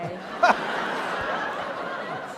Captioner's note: laughter